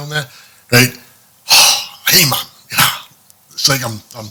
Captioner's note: incoherent sighing etc